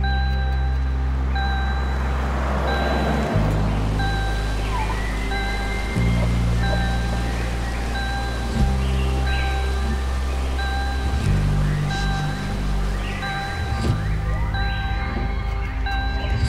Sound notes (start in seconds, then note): 2.0 car whirring